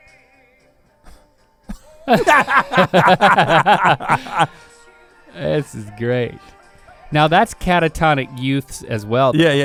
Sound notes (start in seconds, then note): 1.7 both laughing